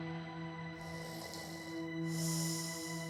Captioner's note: snoring